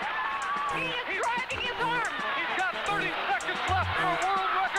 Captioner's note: man on TV